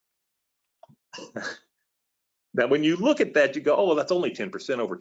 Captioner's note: laughs